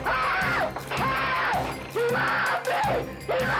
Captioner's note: screams